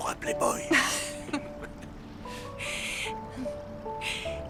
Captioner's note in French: rires